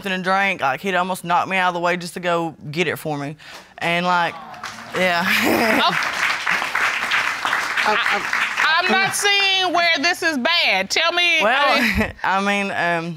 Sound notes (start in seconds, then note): 4.2 audience clapping; 5.2 chuckles; 11.7 chuckles